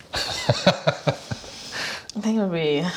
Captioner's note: laughs